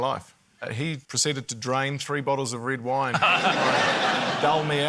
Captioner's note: laughter